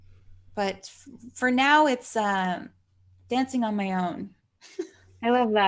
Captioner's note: laughs